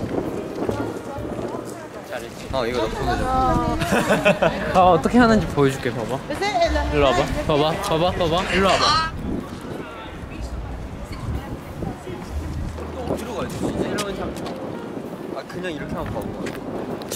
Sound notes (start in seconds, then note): 2.9 haha